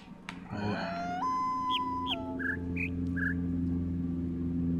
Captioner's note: coyote howls ˩˧˥˥ ˧; bird chirps five notes